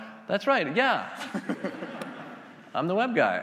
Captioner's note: attendees laughing